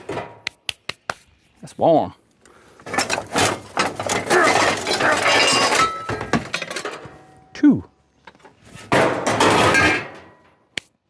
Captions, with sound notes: That's one. (Metal Clanking) Two.